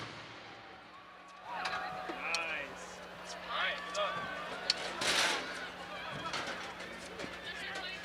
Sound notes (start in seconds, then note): 0.7 audience applauding